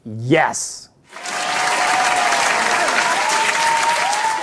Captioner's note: clapping